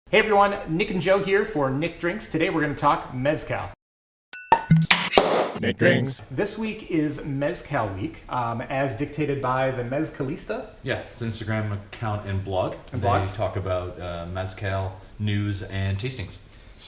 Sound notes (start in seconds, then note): 4.3 ding; 4.6 pop; 5.0 pop top opening